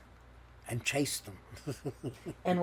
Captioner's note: laughing